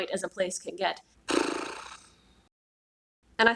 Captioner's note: blows morosely through lips